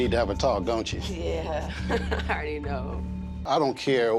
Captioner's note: laughs